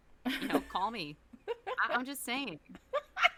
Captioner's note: laughs